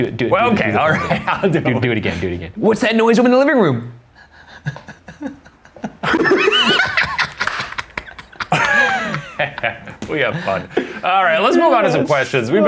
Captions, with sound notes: - Do it again. - Well, okay I'll do it again. - What's that noise over in the living room? (all laughing) - We have fun. All right, let's move on to some questions.